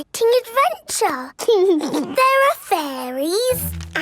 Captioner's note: snorts; giggles